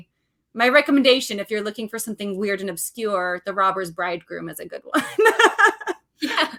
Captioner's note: laughs